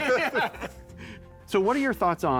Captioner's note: laughter